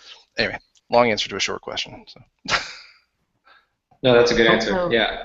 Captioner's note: laughs